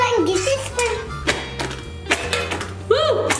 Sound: female blowing

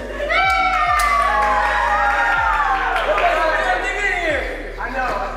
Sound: mild Cheering

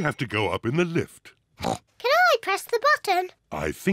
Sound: oinks

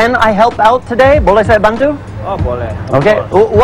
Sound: speaking indonesian

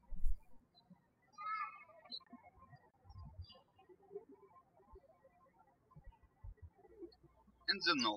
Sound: birds chirping

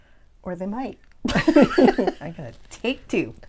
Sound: laughing

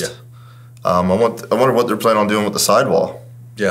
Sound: none

